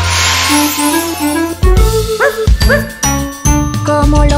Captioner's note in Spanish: Música alegre; Ladrido